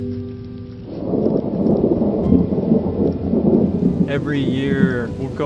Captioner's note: thunder rumbling